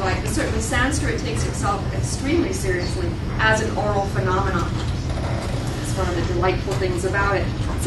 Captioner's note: none